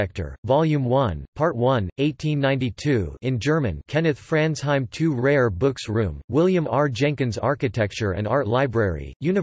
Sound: in German

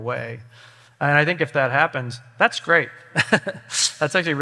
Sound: laughs

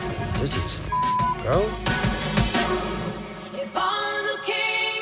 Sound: beep

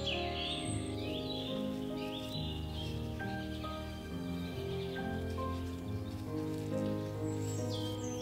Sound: petals rustle

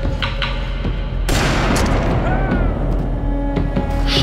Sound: gun banging

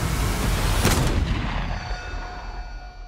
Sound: suspenseful music intensifies; gunshot

